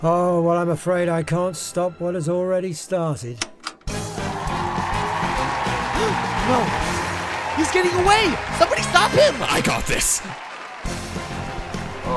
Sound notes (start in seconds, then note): 3.4 click; 5.9 gasp